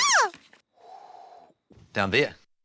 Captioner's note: exhales